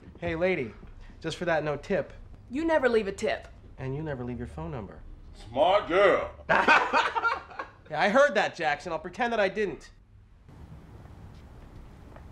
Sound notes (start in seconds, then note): 7.1 laughs